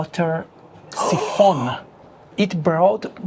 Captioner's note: gasps